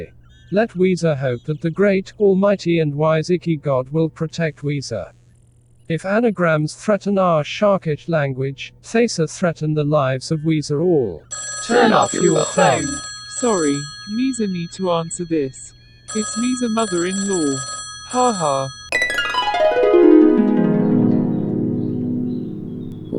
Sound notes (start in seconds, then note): 11.2 phone ringing; 18.9 harp